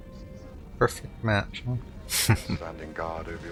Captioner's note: chuckling